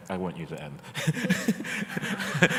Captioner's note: laughter